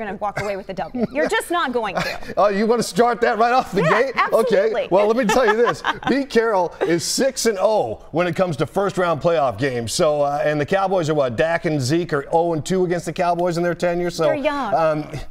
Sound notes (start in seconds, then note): 0.3 laughter; 5.0 laughter